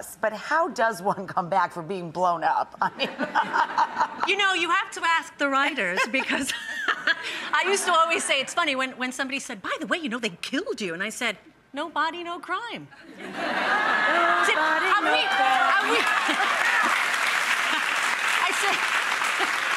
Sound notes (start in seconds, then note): 3.0 audience laughing; 6.5 laughing; 13.1 audience laughing; 16.0 audience clapping